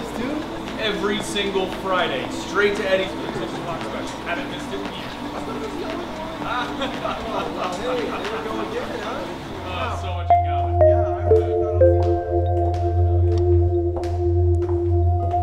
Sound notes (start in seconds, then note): 7.8 guys laughing and chattering; 10.3 tense music